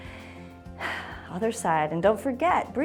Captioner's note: exhales